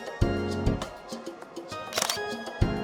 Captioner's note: camera snap